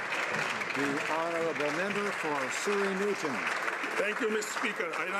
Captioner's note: some Applause